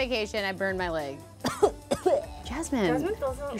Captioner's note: coughs